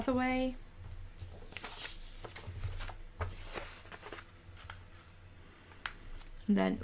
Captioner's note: paper rustling